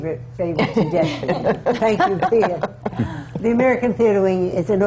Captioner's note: laughs